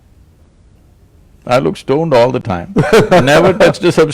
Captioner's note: laughter